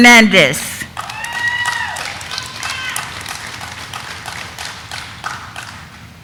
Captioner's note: audience applauding; audience member cheering